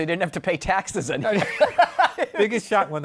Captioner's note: laughter